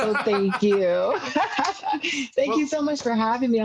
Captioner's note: laughs loudly